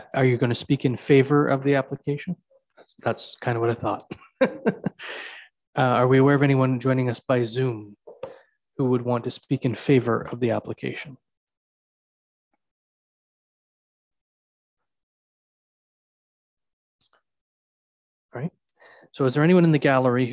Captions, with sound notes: Are you gonna speak in favor of the application? That's kind of what I thought. (chuckles) Are we aware of anyone joining us by Zoom who would want to speak in favor of the application. All right. So is there anyone in the gallery